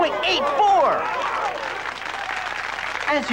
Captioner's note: applause